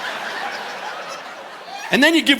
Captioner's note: audience laughing